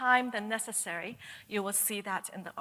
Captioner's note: none